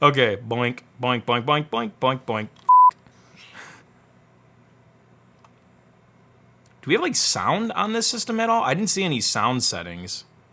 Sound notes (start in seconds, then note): 2.7 beep